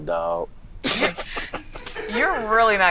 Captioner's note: all laughing